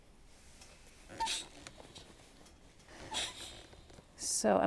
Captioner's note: iron clanks